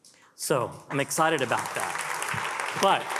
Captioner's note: attendees applaud